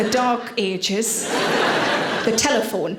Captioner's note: audience laughing